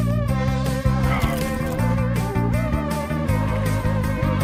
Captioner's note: upbeat music continues; blood splattering